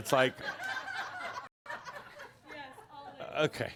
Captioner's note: more laughter